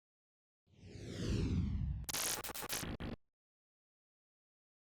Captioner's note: logo whooshing